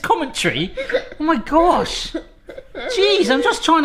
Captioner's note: kids giggling